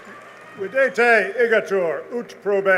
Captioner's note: speaking latin